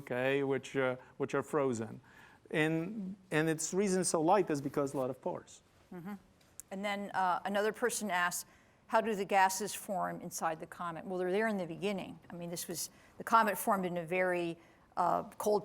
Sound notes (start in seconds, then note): none